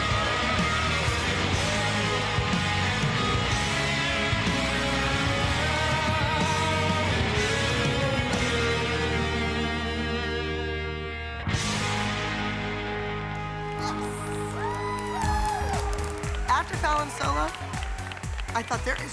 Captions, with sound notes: Ah, ah, no, no, no, no, no. Yes! [CHEERING] After Fallon's solo, I thought, there